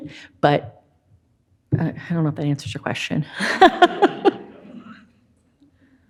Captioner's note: laughs